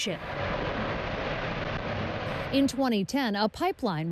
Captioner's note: fire roaring